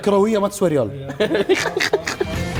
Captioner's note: laughing